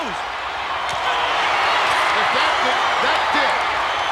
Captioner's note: audience cheering